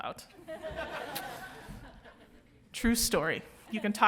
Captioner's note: audience laughing